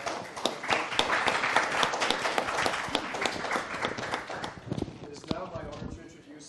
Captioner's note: applause